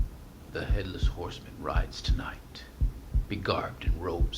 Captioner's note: heart beating; heart beating